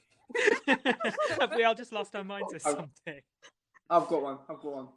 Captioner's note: laughter